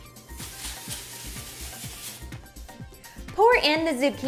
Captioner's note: aerosol can hissing